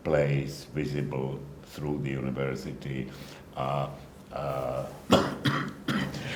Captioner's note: coughing